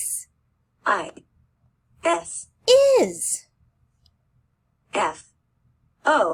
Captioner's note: computer voice